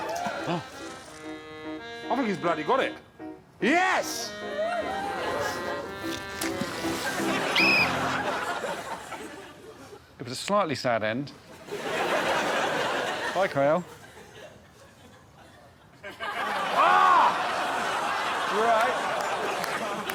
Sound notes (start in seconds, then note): 5.1 blows whistle